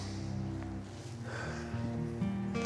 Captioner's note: exhales; inhales